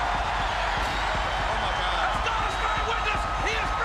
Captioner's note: crowd cheers wildly